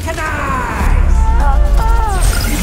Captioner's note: screams; action music playing